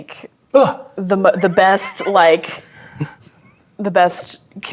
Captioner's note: laughing